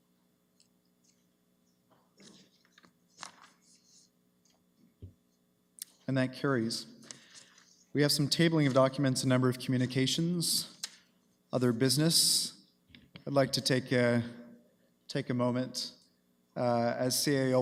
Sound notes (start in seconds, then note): none